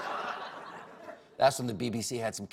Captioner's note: laughter